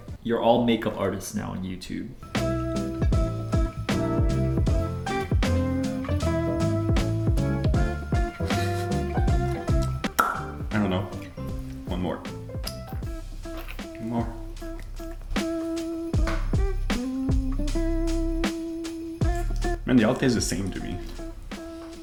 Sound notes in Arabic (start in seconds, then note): 8.8 أقصى ضحكات خافتة; 15.4 ترانيم عيد الميلاد